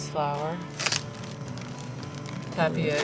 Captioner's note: packet crinkling